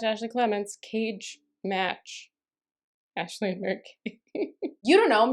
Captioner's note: laughter